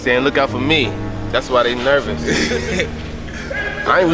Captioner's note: laughing